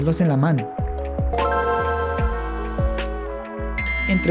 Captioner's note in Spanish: sonido de la gameboy